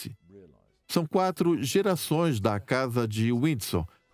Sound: voiceover

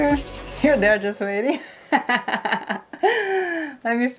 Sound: laughs

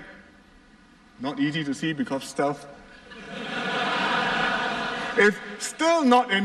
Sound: laughter

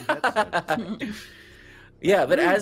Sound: laughing

